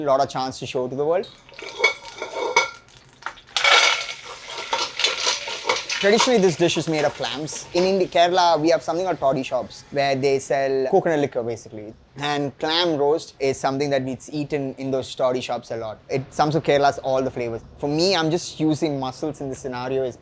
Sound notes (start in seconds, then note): 1.2 metal clangs; 3.6 mussels clatter